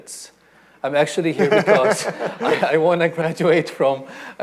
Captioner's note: panelists laughing